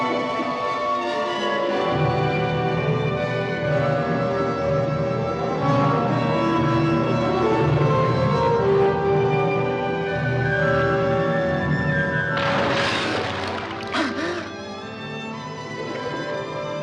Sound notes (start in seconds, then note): 13.4 gasping